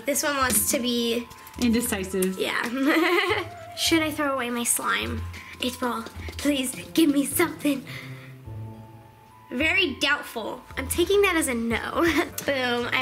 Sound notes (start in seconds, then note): 2.8 chuckles